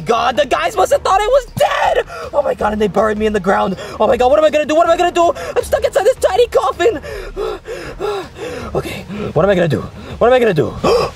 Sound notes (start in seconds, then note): 7.0 panting